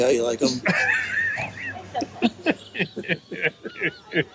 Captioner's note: group laughing